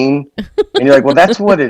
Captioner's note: laughs